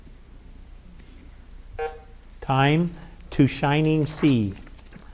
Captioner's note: button buzzing